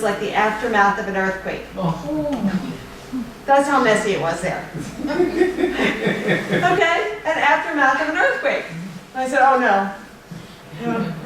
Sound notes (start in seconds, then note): 4.8 laughter